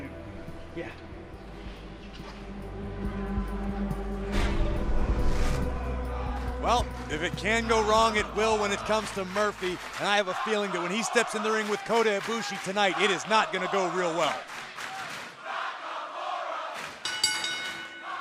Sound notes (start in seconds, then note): 15.9 fans chanting; 17.0 bell ringing